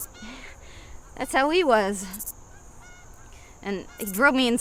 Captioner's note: scoffs